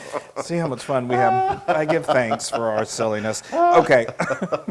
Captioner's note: laugh